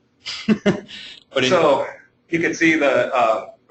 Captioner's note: chuckling